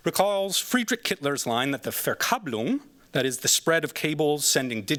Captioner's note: non-english